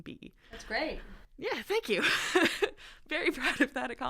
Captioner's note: laughter